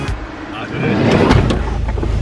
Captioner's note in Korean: 차 문 닫히는 소리